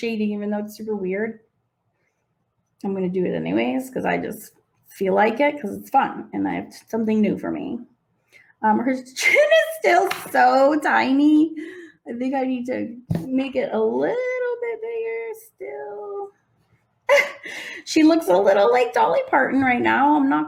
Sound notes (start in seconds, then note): 17.2 snickers